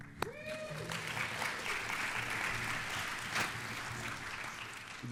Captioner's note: audience applauds